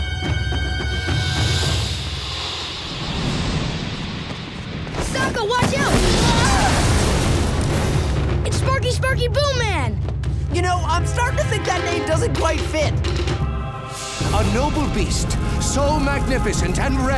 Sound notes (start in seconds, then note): 5.5 screaming